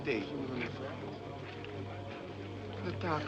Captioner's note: men Murmuring